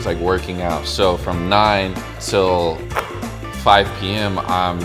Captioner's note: ball shoots